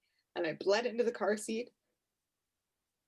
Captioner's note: none